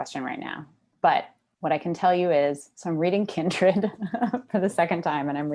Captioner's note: laughs